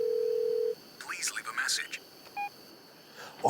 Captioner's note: cell ringtone; automatic voice message